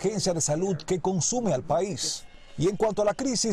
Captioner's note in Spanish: hablando en inglés